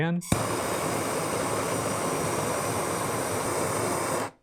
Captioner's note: torch hissing